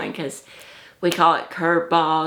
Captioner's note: none